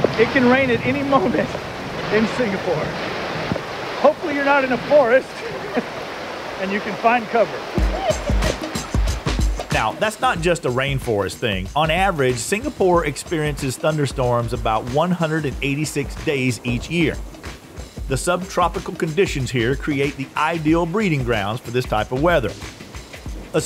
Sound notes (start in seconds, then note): 5.3 laughing; 7.8 woman laughing; 8.2 upbeat music